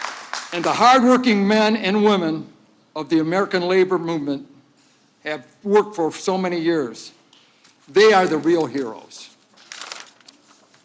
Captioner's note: applause